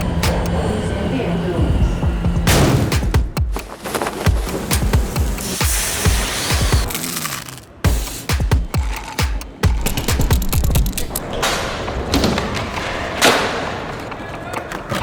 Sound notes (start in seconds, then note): 3.5 flag rustling; 4.7 food sizzling; 6.8 food crunching; 8.4 drink slurping; 10.4 pen shaking; 11.0 skateboard grinding